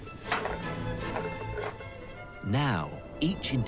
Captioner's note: cans clatter